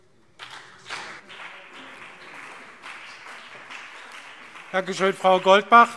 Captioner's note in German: Beifall BÜNDNIS 90/DIE GRÜNEN und CDU